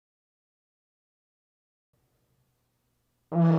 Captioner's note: horn sound